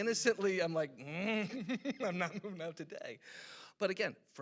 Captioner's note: chuckles